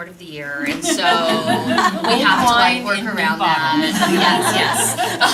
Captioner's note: laughter